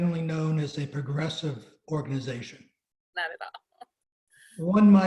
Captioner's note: laughs